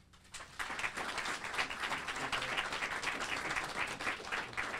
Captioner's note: audience applauding